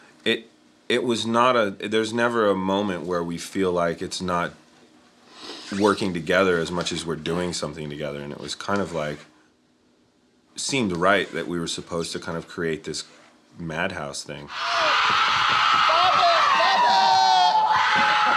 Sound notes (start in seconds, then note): 14.5 hysterical screaming